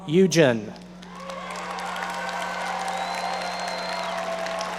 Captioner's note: audience applauding